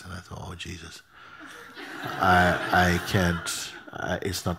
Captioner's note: laughter